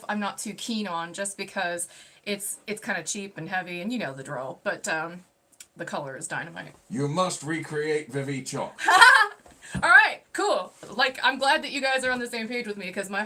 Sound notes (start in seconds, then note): 8.8 laughing